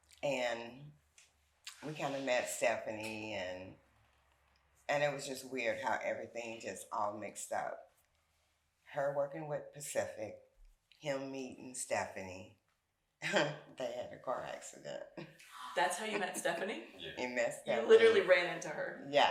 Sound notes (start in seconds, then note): 15.6 chuckles